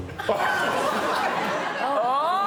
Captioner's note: audience laughs